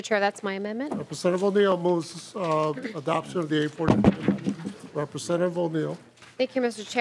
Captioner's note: gavel